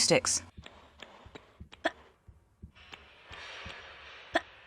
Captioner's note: ploc ploc ploc